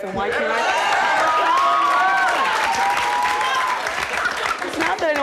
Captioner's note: audience applauds